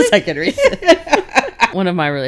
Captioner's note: laughing